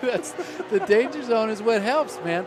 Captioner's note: laughter